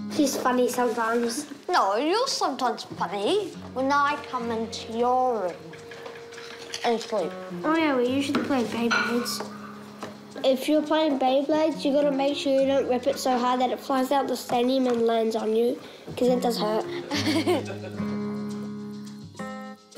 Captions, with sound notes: - She's funny sometimes. - No, you're sometimes funny. When I come into your room (CRUNCHES) and sleep. - Oh yeah, we usually play Beyblades. If you're playing Beyblades, you gotta make sure you don't rip it so hard that it flies out the stadium and lands on you, cos it does hurt. - (CHUCKLES)